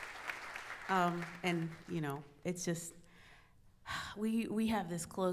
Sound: sighs

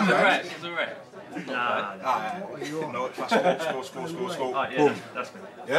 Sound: lads chatter continues

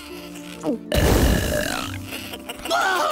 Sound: belching; shrieking

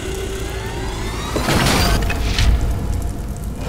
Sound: thud

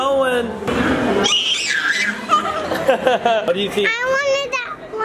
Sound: squealing

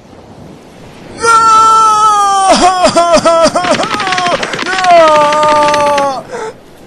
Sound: bawling

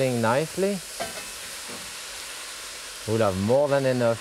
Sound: pot sizzling

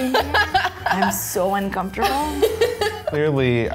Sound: laughing

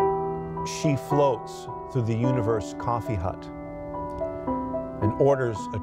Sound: reciting

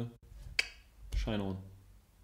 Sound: clicks with the tongue

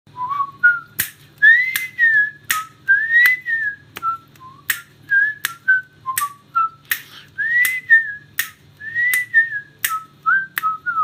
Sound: whistling

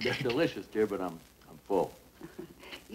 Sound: laughs nervously

